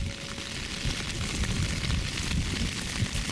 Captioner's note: sound of rain on tent